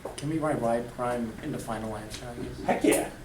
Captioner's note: voiceover